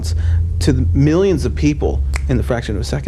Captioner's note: fingers click